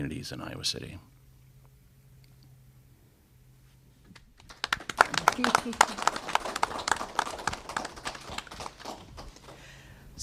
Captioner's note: applause